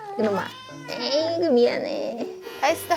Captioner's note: meow